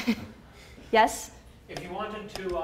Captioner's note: laughs